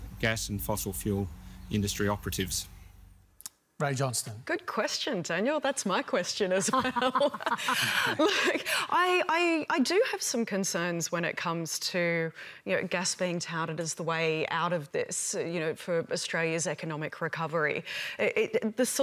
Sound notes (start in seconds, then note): 6.6 laughs